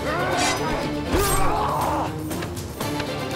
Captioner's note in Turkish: Haykırma sesi